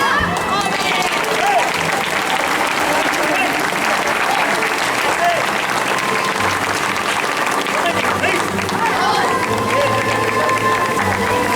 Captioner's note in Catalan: Aplaudiments